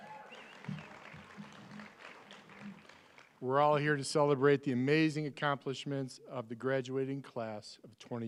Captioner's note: applause